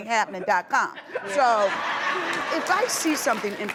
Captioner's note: laughter